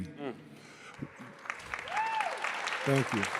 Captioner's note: crowd applauding